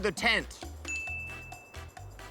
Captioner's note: ding!